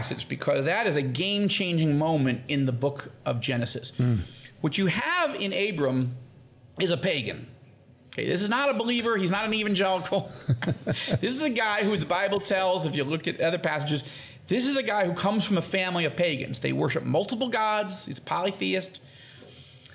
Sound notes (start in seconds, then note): 10.2 both laughing